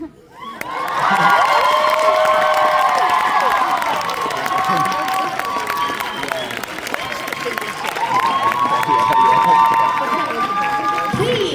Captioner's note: applause